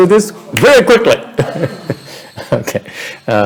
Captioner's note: laughter